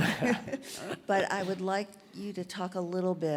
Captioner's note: laugh